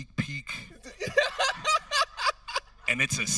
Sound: host laughing

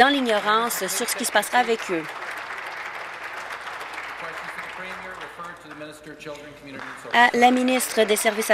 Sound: applause

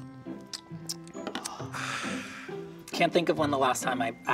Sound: lips smacking; Cookie Monster sighs

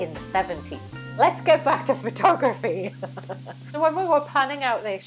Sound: laughs

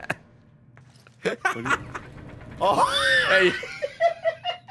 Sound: laughs

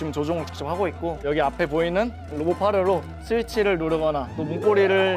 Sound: confident

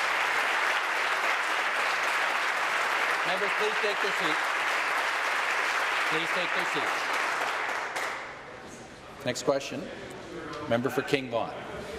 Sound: applause

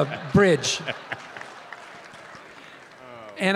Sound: Tim and audience laughing

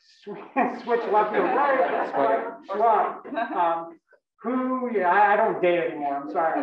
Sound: laugh; laugh

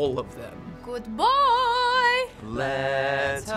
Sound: singsong

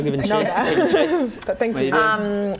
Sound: laughs

